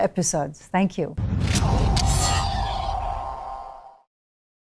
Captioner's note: logo whooshing